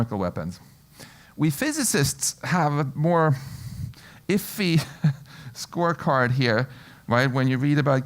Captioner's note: laugh